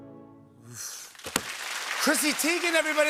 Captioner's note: applause